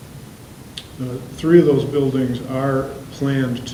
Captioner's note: voiceover